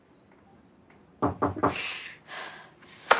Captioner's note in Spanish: Llaman a la puerta